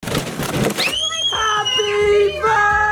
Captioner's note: scream